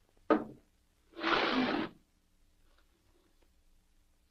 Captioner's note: bottle scrapes